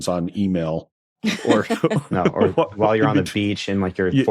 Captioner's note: laughs